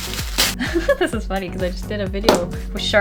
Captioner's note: giggle